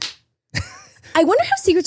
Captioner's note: claps